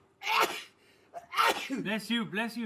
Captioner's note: worker coughs